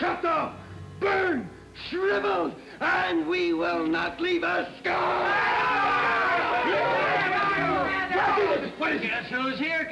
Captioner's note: men cheer